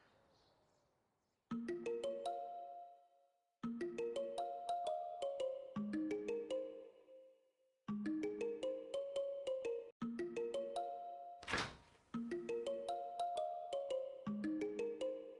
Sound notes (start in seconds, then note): 1.2 upbeat music; 11.3 fridge door opens